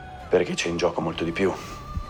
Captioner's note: none